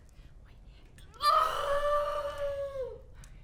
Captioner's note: Belle screaming